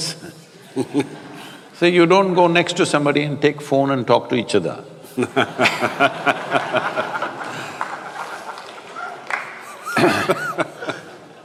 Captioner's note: laughter